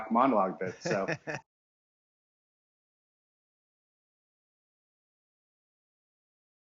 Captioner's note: speaks faintly; laughs